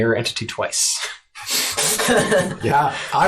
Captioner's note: all laugh